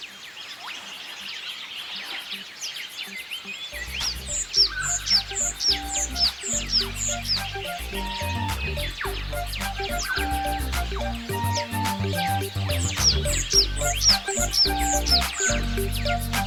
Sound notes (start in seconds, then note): 4.1 birds chirping; 5.5 upbeat music background